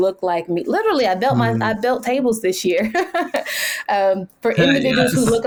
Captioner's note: laughs